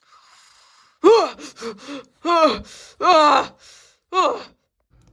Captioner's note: screaming